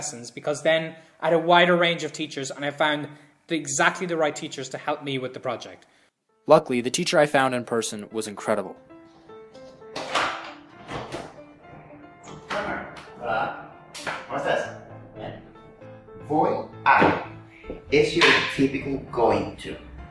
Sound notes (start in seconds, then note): 9.8 door clicks